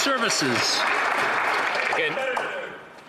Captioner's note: some Applause